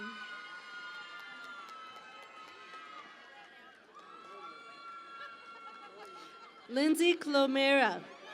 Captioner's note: cheering and Applause